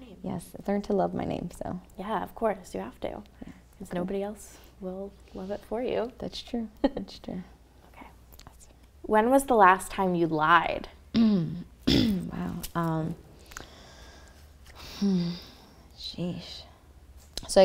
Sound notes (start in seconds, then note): 7.2 chuckles; 11.8 clears throat